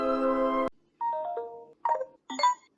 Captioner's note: digital alarm sounds